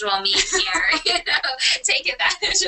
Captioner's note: laughter